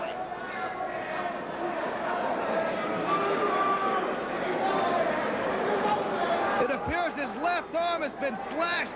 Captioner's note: crowd chatter